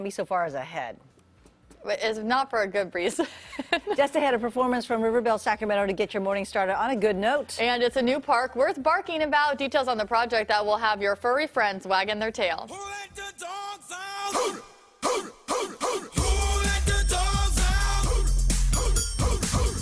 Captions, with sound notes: I WANT TO DO THAT. GET ME OUT. [LAUGHTER] I'M ON TWITTER AND PLEASE VOTE. PLEASE VOTE. CAMBI SO FAR IS AHEAD. NOT FOR A GOOD REASON. THE RIVERBELL SACRAMENTO GOT YOUR MORNING STARTED ON A GOOD NOTE.